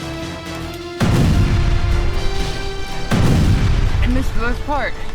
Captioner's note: explosion bang